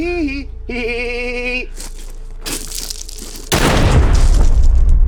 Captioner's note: gun fires